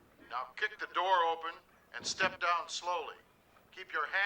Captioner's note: none